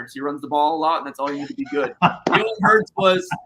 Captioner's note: laughter